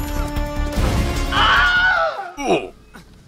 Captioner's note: Wilhelm scream